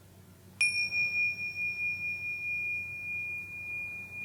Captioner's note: chimes clanging